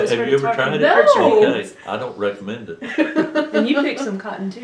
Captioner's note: laughter